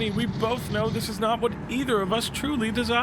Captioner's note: none